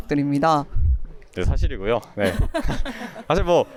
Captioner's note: laughs